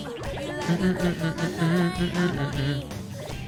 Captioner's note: humming